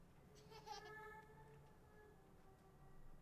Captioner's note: giggling